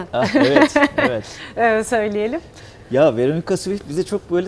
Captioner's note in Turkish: kahkaha